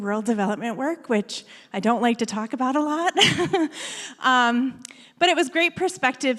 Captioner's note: laughs